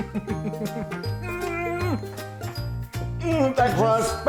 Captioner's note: laughing